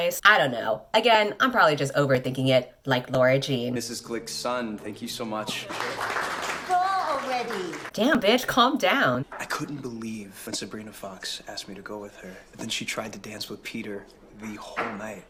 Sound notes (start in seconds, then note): 5.4 applause